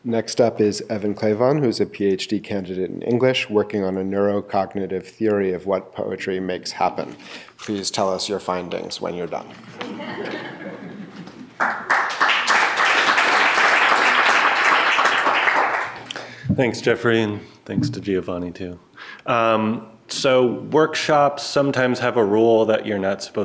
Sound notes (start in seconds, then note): 9.7 audience laughing; 11.6 clapping